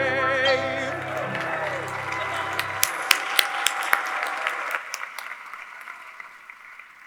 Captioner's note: people cheering; people clapping